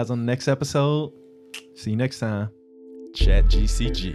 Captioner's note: clicks tongue